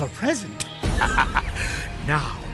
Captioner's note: evil laughter